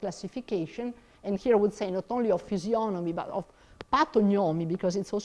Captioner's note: speaks in foreign language